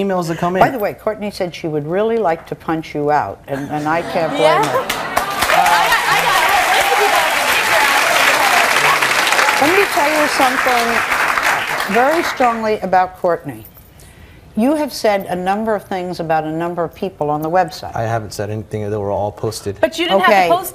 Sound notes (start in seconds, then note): 4.8 audience applauding; 8.9 audience cheering and clapping